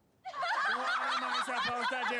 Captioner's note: crowd laughing